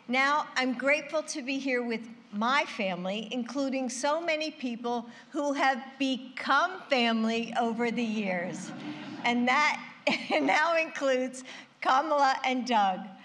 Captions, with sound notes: Now, I'm grateful to be here with my family, including so many people who have become family over the years. (Laughter.) And that -- it now includes Kamala and Doug.